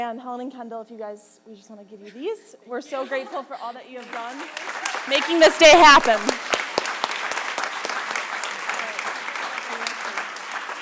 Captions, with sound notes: and Helen and Kendall, if you guys, we just wanna give you these. We're so grateful for all that you have done, making this day happen. (audience applause)